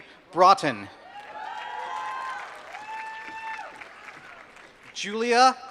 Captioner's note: applause